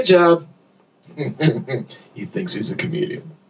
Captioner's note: laughter